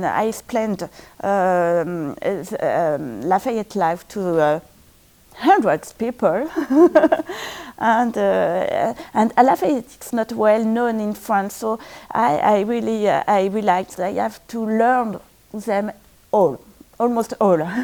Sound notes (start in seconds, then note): 6.4 laughs